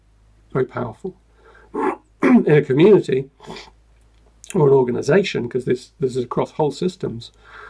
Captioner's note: clears throat